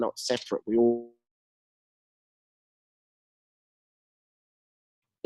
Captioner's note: audio cuts out